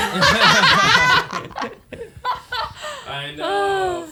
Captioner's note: laughing